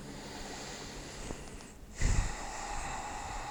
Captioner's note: takes a deep breath